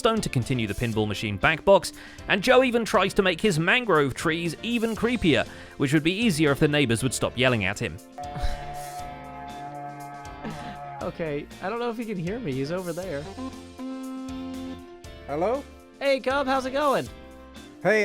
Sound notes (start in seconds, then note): 8.2 goat Horn sounds; 10.4 chuckles; 13.7 blows horn